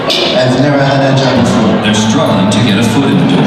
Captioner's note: male Voice